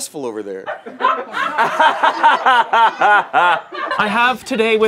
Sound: laughter

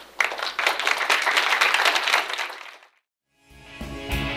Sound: audience clapping; upbeat music

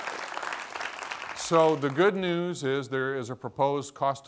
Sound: applause

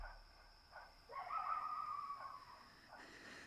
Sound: coyote yips

